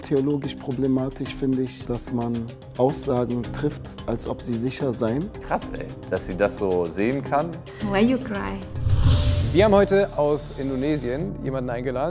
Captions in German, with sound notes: Theologisch problematisch finde ich, dass man Aussagen trifft, als ob sie sicher seien. Krass, dass sie das so sehen kann. (englisch:) Wir haben heute aus Indonesien jemanden eingeladen.